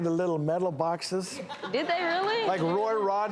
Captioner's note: audience laughing